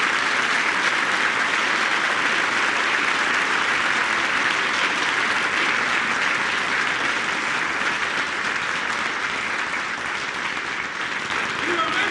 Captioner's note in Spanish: aplausos